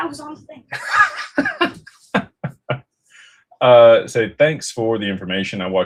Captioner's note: laughter